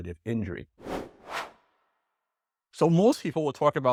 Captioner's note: air whooshes